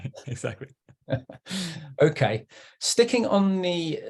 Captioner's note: chuckles